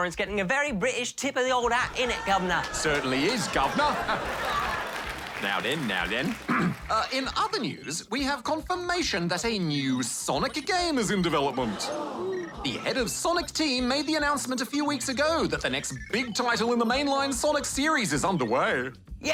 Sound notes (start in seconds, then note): 0.3 cockney accent; 4.2 laughter; 6.3 clears throat; 11.6 audience gasps